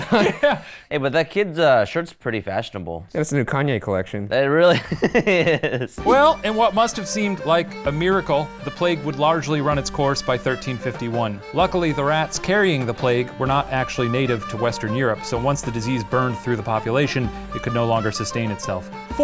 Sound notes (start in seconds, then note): 4.7 laughs